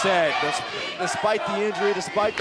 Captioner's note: fans chanting